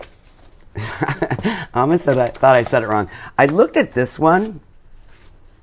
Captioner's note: laughs